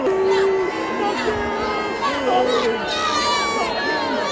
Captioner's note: crowd boos; crowd angrily chants